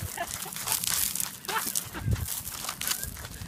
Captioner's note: laughs